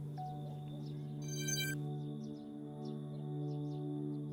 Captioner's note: device shutting down